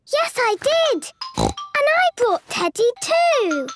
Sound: snorts

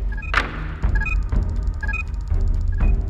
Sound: beeping

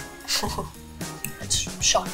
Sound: upbeat music; laughing

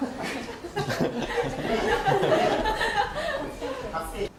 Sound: laughing

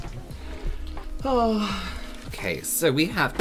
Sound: big Sigh

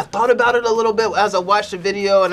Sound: laughs

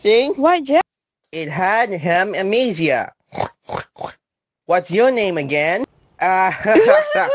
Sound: pig Sounds; laughing Sounds

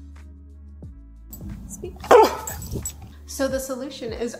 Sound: barks

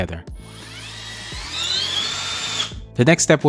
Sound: electric drill whirring

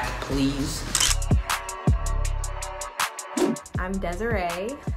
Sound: camera click

